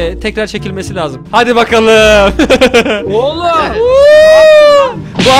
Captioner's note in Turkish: +9 i̇tli̇k gülüşü